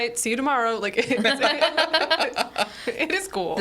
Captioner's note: group laughs